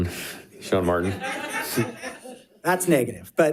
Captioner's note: audience laughing